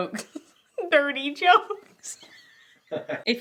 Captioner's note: laughs